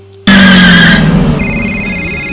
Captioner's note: engine roaring; phone ringing